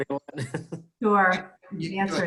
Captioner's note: laughing